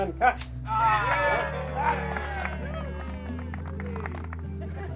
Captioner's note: cheers and applause